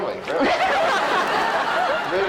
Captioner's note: audience laughs